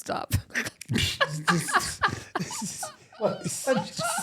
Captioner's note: laughing